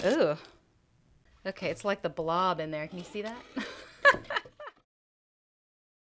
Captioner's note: laughing